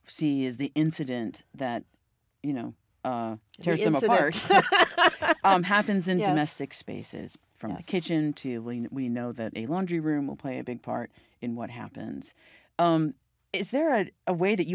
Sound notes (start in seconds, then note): 4.1 laughs